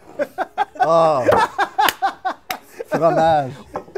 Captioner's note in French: rire